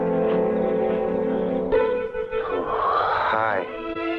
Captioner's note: footsteps pattering; gasps